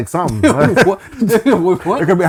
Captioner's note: laughing